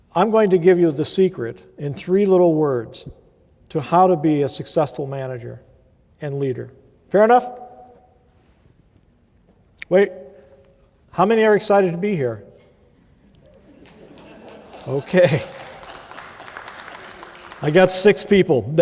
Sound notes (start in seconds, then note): 13.1 laughter and clapping